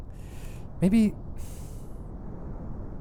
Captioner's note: sigh